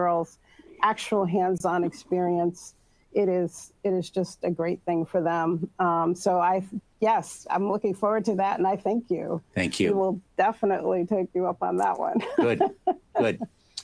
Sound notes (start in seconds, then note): 12.0 laughs